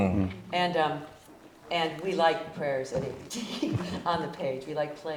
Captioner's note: chuckle